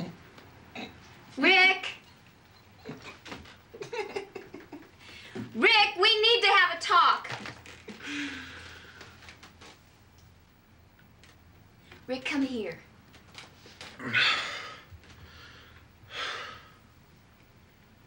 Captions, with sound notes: Rick! (giggling) Rick, we need to have a talk. Rick, come here.